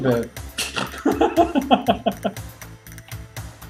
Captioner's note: snorts and laughs